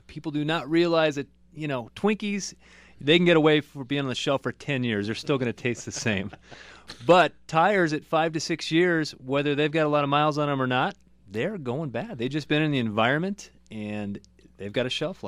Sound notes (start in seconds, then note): 5.1 laughs